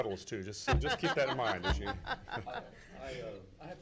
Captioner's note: laughs